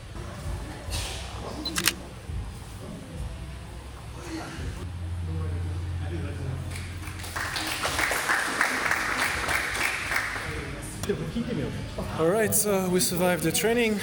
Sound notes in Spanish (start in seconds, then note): 6.7 Aplausos